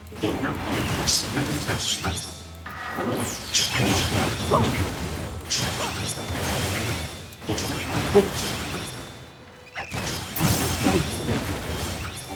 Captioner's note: explosions